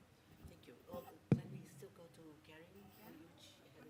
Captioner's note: muffled chatter